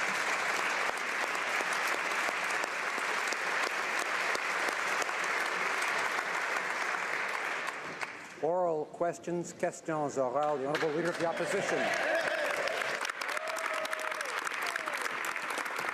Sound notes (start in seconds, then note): 2.4 applause